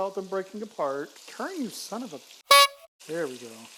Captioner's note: clown Horn!